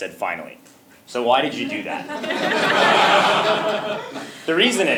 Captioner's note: laughter